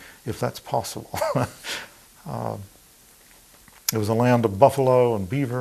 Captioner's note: laughing